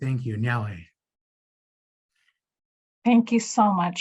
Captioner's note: speaking in Native language